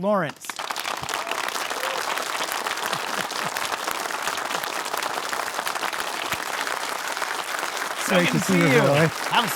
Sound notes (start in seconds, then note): 0.4 audience applause